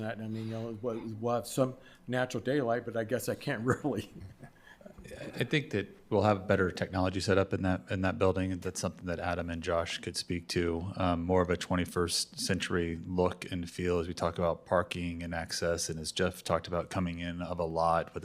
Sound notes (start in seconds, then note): 3.6 chuckling